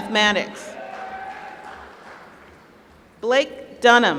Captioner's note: applause